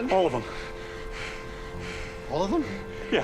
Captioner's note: russ and valerie gasping